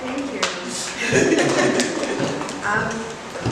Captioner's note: laughs